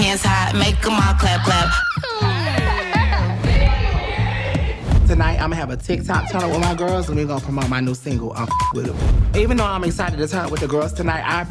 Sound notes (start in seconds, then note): 3.9 group chattering; 8.4 beep